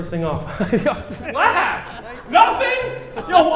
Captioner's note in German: lacht